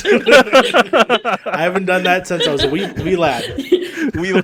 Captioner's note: laughter